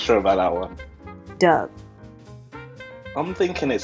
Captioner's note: voiceover